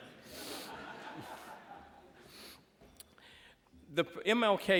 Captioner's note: laughter